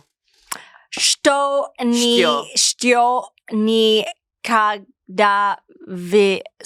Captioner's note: speaks in foreign language